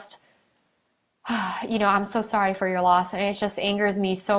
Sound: sighs

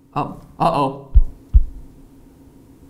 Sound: heartbeat

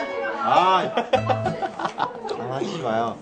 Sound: laughs

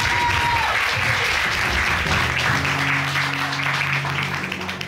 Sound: audience applauding

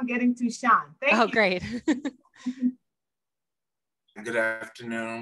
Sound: laughs

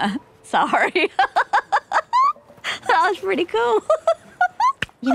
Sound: laughing

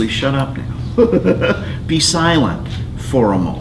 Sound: chuckles

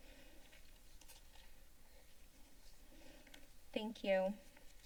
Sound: paper rustling sound

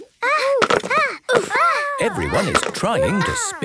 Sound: all grunting

